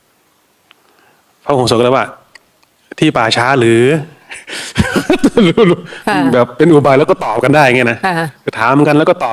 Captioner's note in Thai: เสียงหัวเราะ